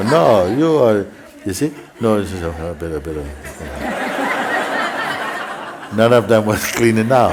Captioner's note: laughter